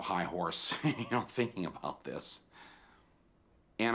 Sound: laughs

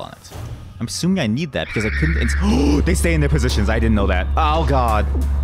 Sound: gasp

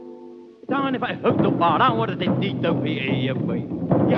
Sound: chanting

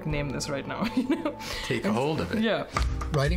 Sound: laughter

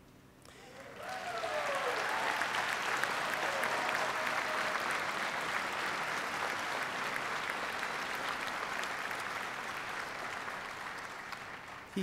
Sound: applause

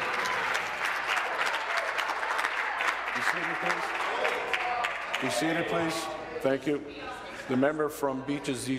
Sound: applause

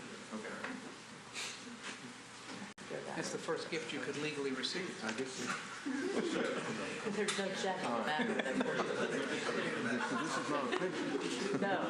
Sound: laughter

